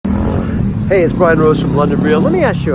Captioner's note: exhaling